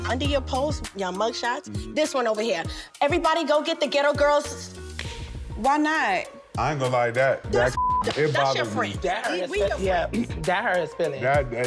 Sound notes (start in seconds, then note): 7.6 beep